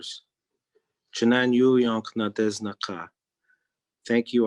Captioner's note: speaking in Native Language